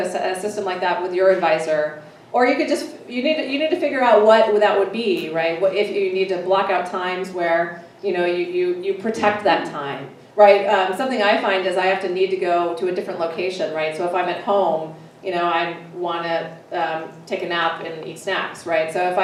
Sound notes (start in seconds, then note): none